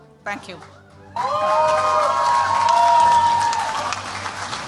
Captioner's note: cheers, applause